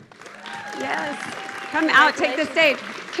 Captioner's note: audience clapping